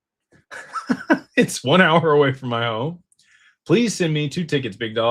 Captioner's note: laughter